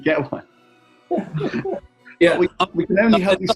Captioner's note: laughter